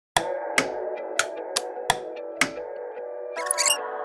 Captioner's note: lights switches flicking; plastic squeaking